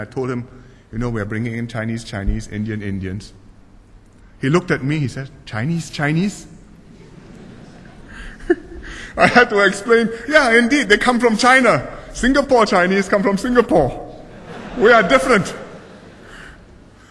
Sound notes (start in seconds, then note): 6.8 laughter